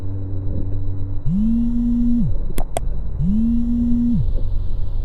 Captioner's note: phone buzzing